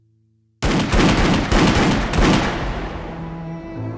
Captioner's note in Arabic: طلقات نارية; موسيقى حزينة